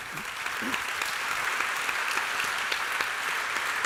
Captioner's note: applause